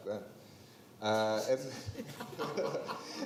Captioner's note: others laughing; laughs